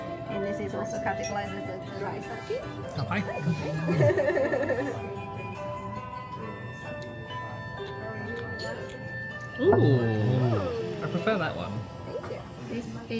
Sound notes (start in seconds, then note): 3.6 giggles